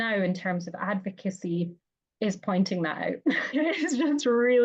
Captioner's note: laughs